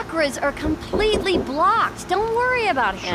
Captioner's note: my Door Knocking on Background